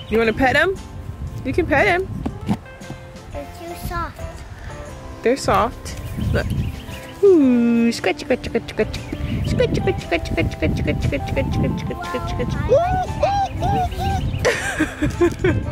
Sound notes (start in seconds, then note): 13.8 laughs